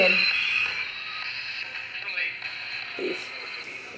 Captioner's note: static voice saying leave